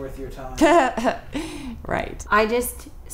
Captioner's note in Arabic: يضحك